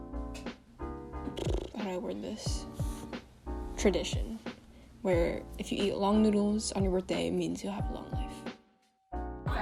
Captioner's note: pfffft